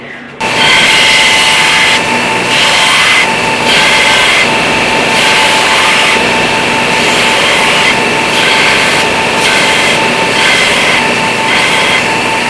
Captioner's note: grinder noise